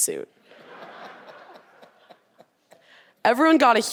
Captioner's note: audience laughing